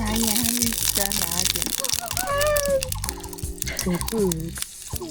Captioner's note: oil splatter, freaked out